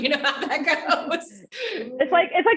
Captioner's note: laughs quickly